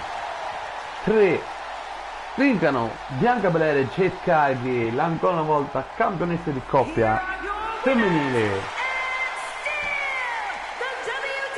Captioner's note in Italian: Applauso